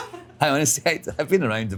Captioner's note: interviewer laughs